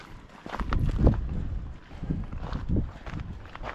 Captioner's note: wind blowing